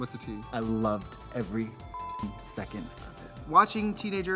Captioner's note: beep